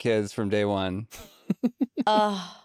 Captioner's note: laughs